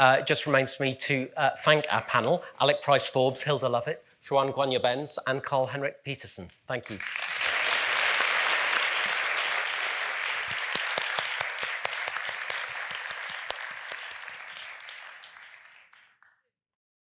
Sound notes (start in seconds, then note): 7.9 audience applauding